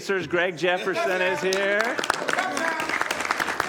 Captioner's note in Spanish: aplausos